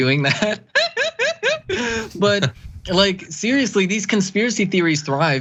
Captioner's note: laugh